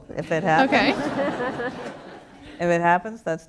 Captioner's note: laughter